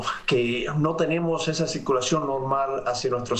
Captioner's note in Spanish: habla en ingés